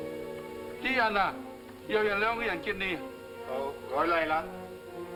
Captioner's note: speaking in foreign language